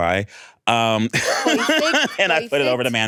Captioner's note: laughs